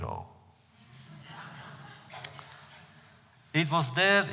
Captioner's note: laughter